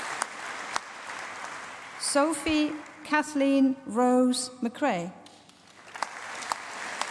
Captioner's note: applause